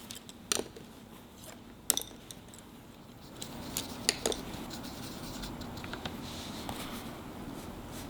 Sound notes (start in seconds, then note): 1.2 brushes clink; 5.2 paint scratches